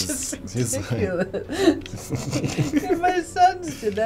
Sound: both laugh; laughing

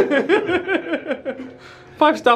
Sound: laughing

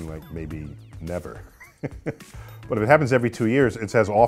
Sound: laugh

